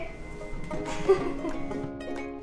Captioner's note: laughter